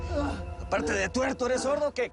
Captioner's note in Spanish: Quejidos